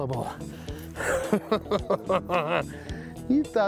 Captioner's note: chuckles